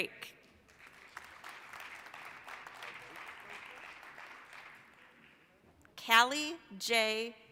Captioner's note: applause